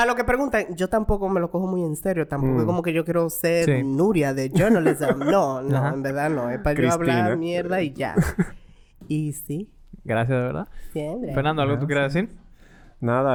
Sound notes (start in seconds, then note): 4.5 laughs